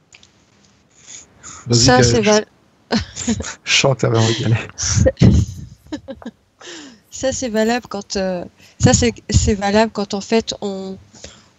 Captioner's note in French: rires